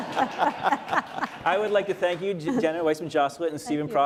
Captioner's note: laughter